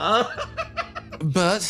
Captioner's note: laugh